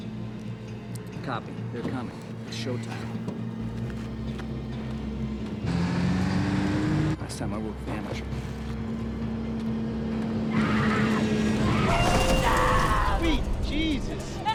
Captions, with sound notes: - Copy. They're coming, its showtime. Last time I work with amateurs. - No! Please, stop! (tires screech) - Sweet Jesus!